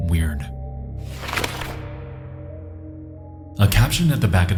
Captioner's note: painting rustling